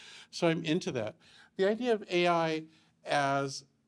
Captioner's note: none